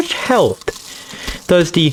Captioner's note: inhales Oxygen